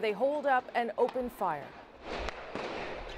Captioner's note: gunshots